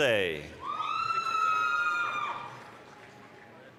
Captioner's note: applause, cheering